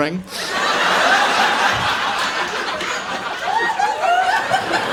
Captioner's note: audience laughing